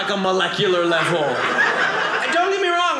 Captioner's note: audience laughing